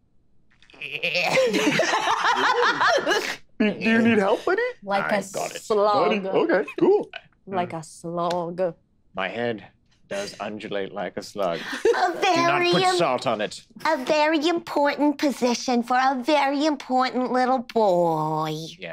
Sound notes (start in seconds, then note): 0.7 Squing groaning; 0.8 group laughing